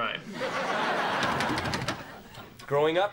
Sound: rattles knob

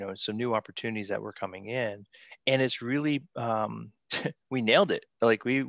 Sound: chuckles

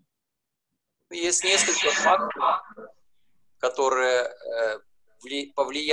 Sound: speaking foreign language

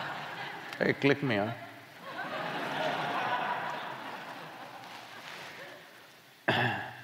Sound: laughter; laughter

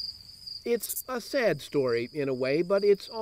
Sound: voiceover

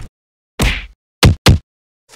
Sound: thuds

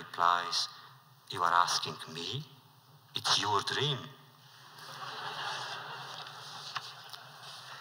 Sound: laughter

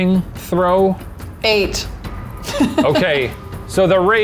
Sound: laughs

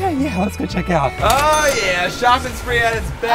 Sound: cash register dings

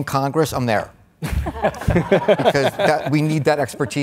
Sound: all laughs

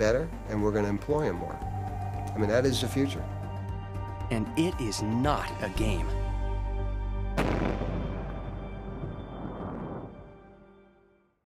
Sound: explosion

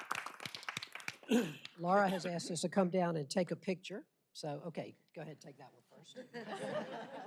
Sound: applause

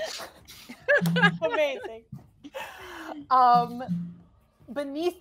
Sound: laughing

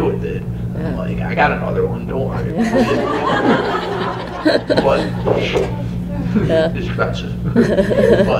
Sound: laughter

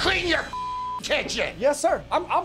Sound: beep

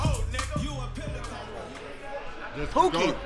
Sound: people chatting in background

